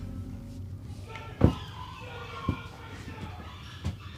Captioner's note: gilda and anthony yelling in the background